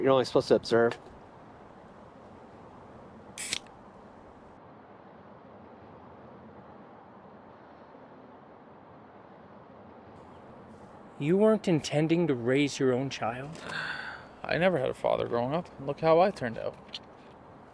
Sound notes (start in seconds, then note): 3.4 beer top opens